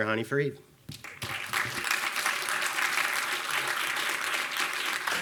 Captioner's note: attendees clapping